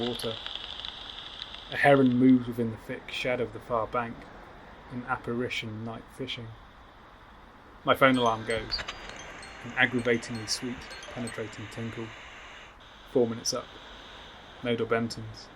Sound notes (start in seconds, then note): 0.0 detector clicks; 8.1 tinkle sounds